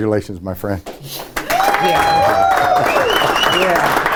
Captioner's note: room cheering